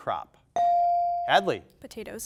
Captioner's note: buzzer dings